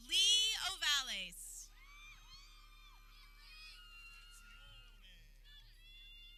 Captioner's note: people cheering